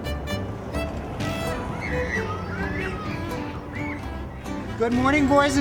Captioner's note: children shouting playfully